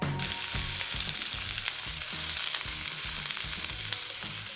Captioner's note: onions sizzling